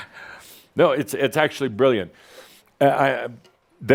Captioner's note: Adamus chuckles